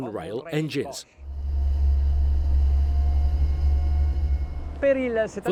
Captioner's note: boat engine roars